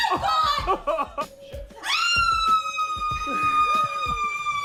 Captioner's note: laughter